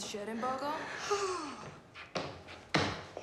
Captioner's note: sighs